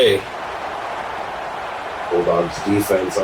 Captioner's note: crowd Noises